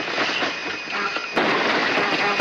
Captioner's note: stall alarm